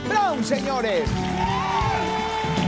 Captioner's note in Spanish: Aplausos